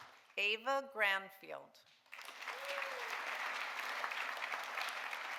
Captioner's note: audience applauding